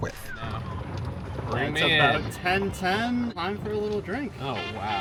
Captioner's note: whistles